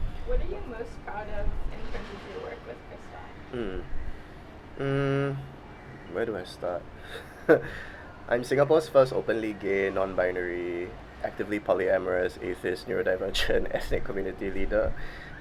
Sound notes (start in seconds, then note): 7.0 laughs